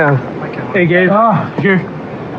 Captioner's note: grgroans